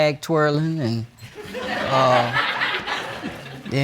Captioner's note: audience laughing